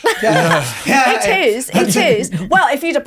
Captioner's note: laughing